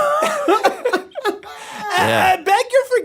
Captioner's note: laughs